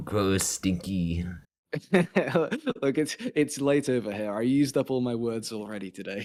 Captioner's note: laughing